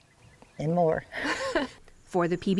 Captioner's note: laughter